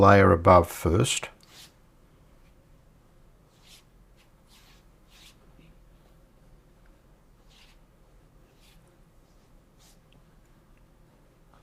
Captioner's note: silence